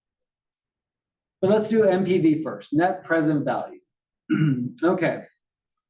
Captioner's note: cough